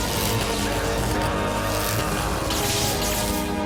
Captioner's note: shout